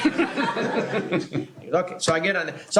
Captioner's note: laughter